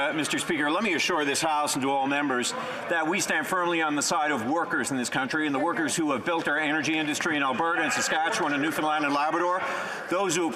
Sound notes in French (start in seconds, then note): 3.6 voix de l'interprète